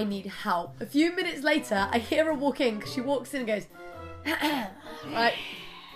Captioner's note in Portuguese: cof cof